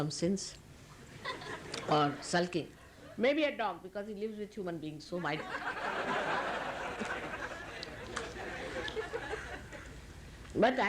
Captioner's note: laughter